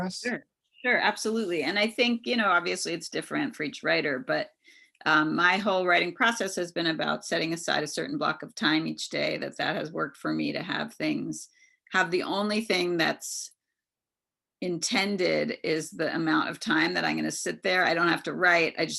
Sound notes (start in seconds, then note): none